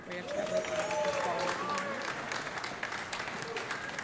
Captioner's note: audience clapping